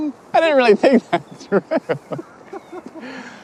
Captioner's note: laughs